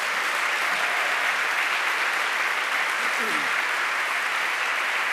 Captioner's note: applause